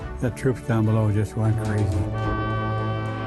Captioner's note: ship horn blows